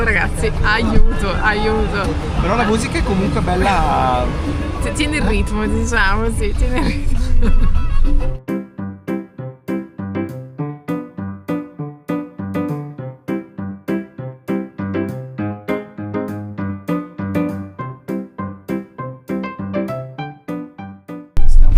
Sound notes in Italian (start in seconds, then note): 12.1 risate